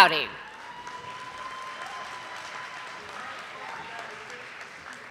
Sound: audience applauding

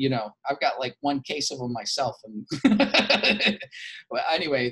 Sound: laughs

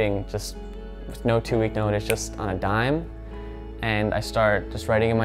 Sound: snaps

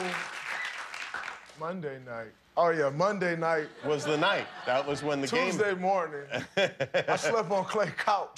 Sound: cheers and applause

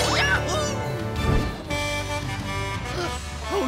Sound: truck horn

